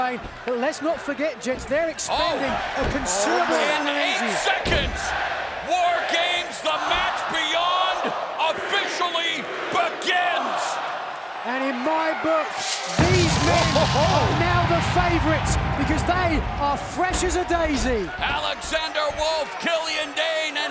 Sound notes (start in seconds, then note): 6.0 fans chanting; 10.4 fans chanting; 12.6 explosion sound effect